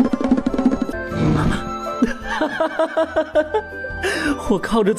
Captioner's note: Cow Mom laughing heartily